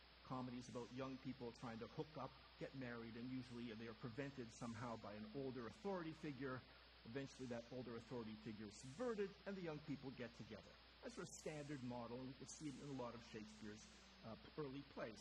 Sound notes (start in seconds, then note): none